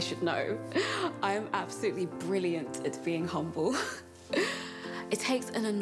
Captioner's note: laughs; laughs